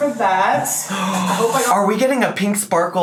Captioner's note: gasps